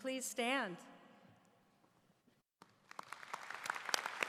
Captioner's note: applause